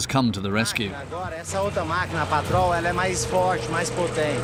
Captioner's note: Portuguese spoken audio